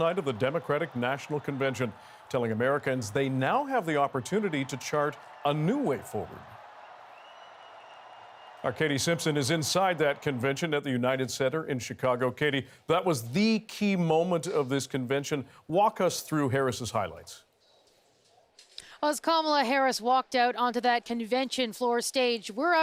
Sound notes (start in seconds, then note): 2.3 cheers and Applause